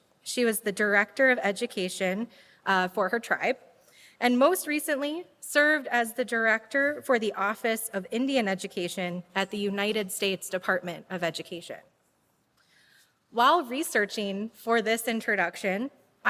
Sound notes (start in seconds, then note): none